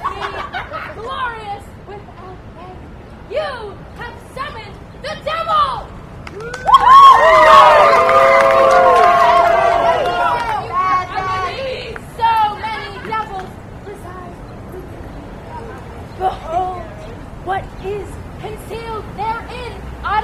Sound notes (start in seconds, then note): 0.0 laughter; 6.4 audience cheers and boos